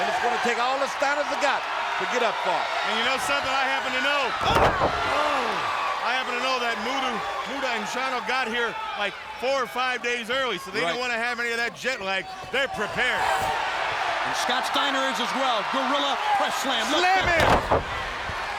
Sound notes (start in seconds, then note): 4.4 body thuds; 5.6 people exclaim; 14.0 crowd cheering